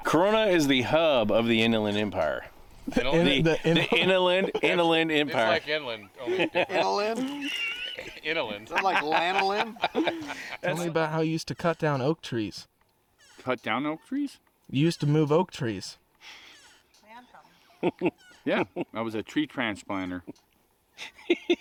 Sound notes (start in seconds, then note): 4.1 laughing; 8.9 laughing; 10.3 all laugh; 17.6 laughs; 21.0 laughing